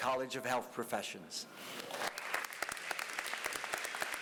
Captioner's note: applause